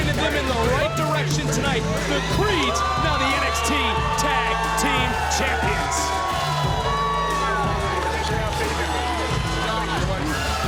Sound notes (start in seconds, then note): 6.5 audience cheering; 6.5 upbeat music continues